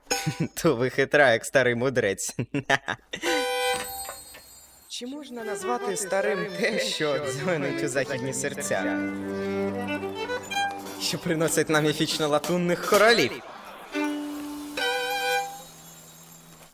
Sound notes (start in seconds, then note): 0.2 plucks violin; 3.1 Rocky laughs and plays a note